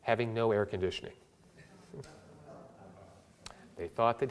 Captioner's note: audience laughter